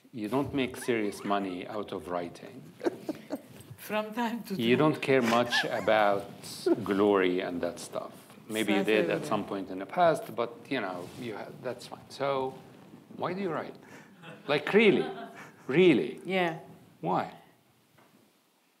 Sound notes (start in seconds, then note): 2.6 chuckling